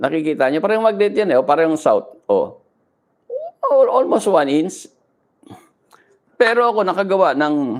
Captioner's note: clears throat